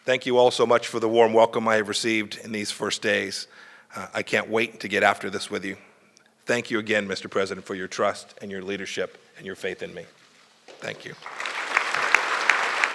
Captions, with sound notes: Thank you all so much for the warm welcome I have received in these first days. I can't wait to get after this with you. Thank you again, Mr. President, for your trust and your leadership and your faith in me. Thank you. (Applause.)